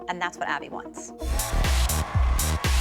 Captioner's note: cheering